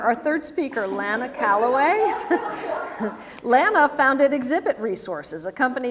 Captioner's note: laugh